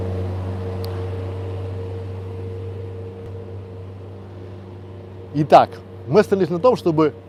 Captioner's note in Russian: звук трактора